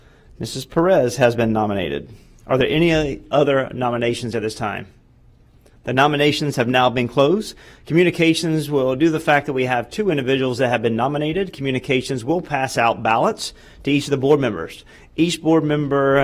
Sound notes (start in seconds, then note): none